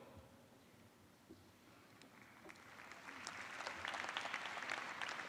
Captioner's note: applause